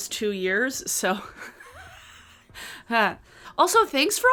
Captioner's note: laughs